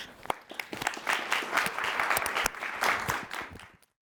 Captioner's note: audience clapping